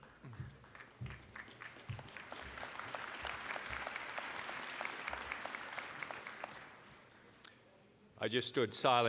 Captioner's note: applause